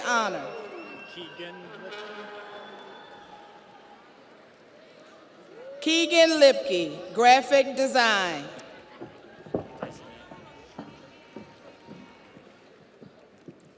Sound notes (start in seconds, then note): 5.3 audience applauds; 5.3 audience cheers